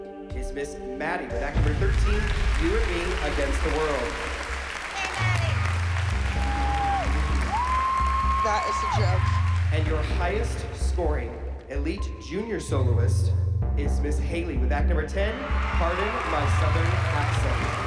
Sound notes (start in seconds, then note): 4.0 applause; 5.8 clapping and cheering